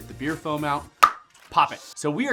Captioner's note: clicks tongue